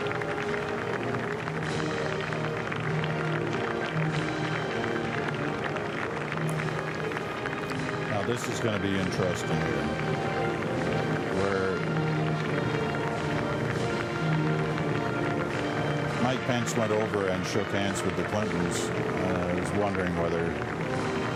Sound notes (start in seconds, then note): 4.3 applause; 8.0 band playing